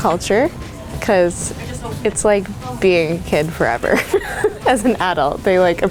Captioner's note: laughs